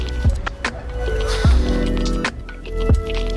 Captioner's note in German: seufzt